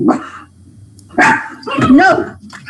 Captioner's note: dog barking